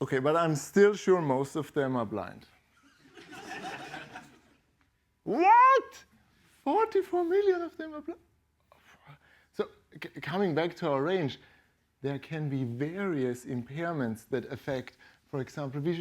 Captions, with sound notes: OK, but I'm still sure most of them are blind. [LAUGHTER] What? 44 million of them are blind? So coming back to our range, there can be various impairments that affect, for example,